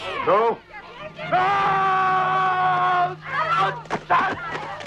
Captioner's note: Nepakin screams